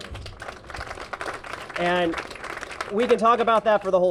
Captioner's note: applause